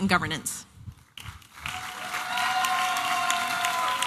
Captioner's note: applause and cheering